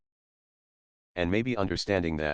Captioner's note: pause